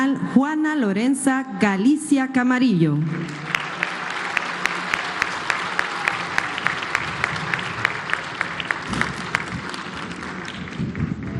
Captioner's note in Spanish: aplausos